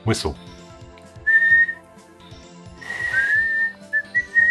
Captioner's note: both whistling